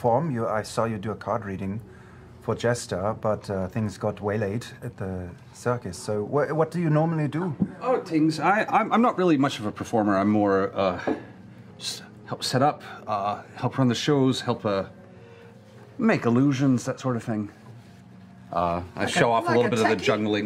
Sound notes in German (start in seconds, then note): none